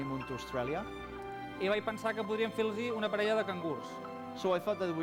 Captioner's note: non-english speech